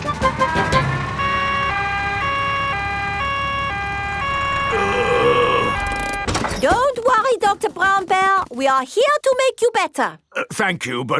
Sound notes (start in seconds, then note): 1.8 siren wailing; 4.7 groaning